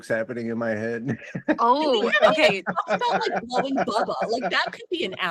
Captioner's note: laughs